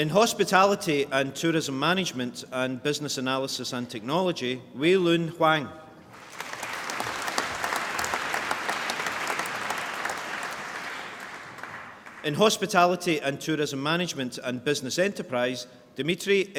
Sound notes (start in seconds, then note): 6.1 applause